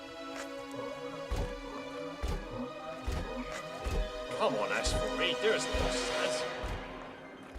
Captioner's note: robotic walking sounds